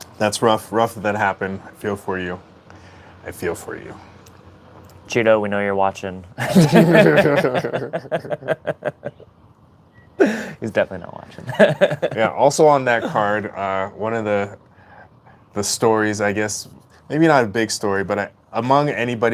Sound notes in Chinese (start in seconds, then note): 9.3 笑聲